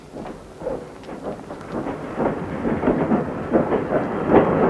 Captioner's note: train clanking